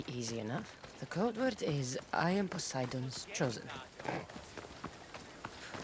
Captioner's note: snort